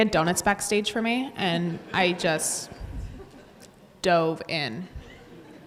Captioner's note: audience laughs